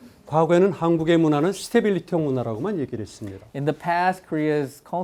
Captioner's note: speaking in Korean